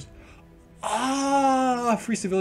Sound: ejaculation noises

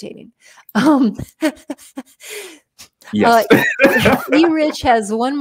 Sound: laughter

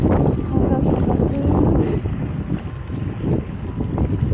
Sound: strong wind

